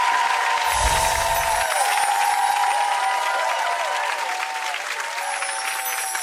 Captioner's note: audience applauds; wind chimes ring